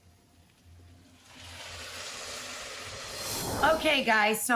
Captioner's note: sizzling